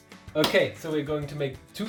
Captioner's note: clapping